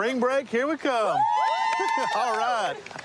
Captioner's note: cheering